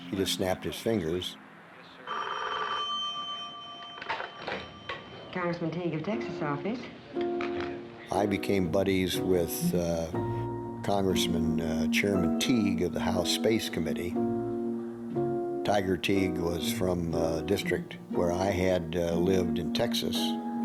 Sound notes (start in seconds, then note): 2.0 phone ringing